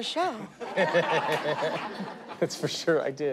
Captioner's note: laughter